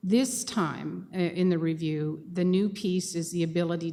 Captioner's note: none